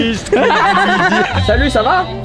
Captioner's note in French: rires